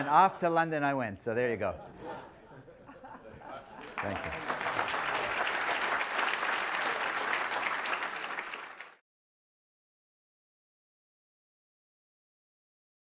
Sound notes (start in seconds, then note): 0.0 audience laughs; 3.7 applause